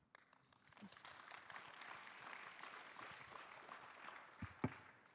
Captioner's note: participants applauding